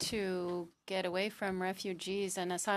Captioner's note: speaking French